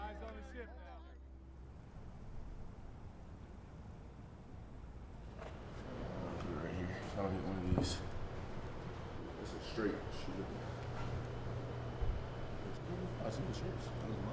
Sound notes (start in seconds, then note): 10.1 chatter